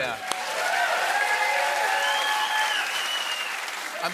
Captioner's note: cheering, whistling, and applause